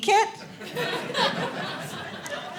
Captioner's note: audience laughing